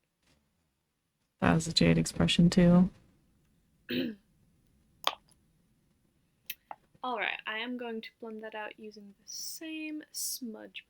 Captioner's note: clears throat